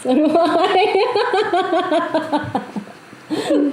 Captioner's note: laughs